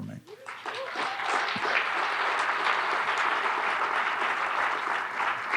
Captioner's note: audience applauding